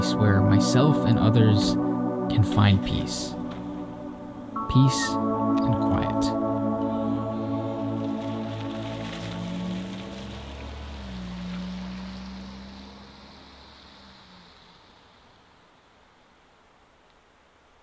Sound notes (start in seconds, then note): 6.9 gentle music plays out; 8.9 car engine drones